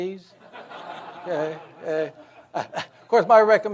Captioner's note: audience laughs